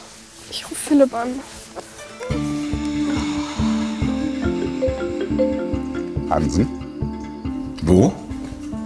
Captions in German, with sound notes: Ich ruf Philip an. (Nachdenkliche Musik) (Handy klingelt.) Hansen? Wo?